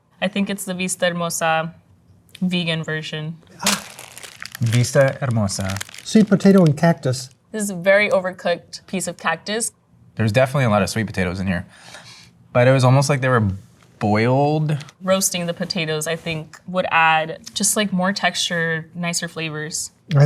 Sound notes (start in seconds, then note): 3.6 wrapper crunching